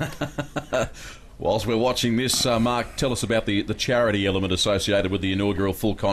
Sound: laughing

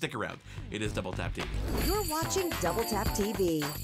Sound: sleigh bells jingle

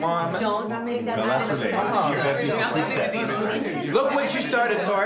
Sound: everyone bickering

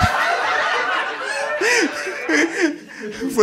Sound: audience laughing

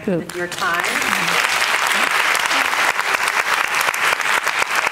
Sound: audience clapping

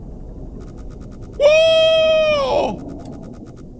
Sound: humming

